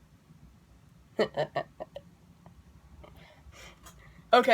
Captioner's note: mischievous laugh